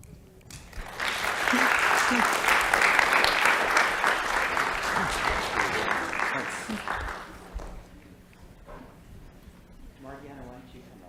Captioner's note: applause